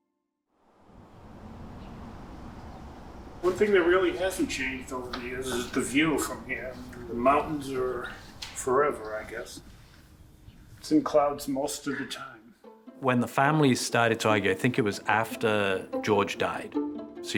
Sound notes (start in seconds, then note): 1.5 birds chirping; 11.3 gentle music